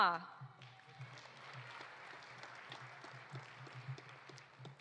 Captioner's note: audience applauding